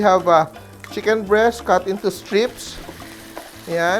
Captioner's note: sizzle